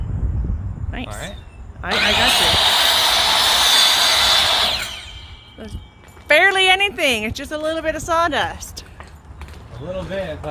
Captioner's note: saw whirs